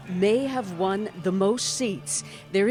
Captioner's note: cheers and Applause